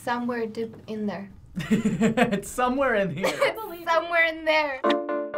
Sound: chuckling; pop ballad

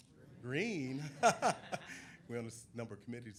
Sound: people laughing

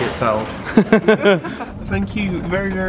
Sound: laughs

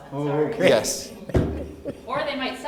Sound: laughs

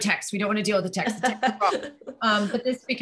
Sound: laughing

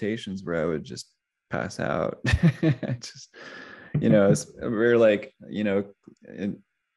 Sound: laughs

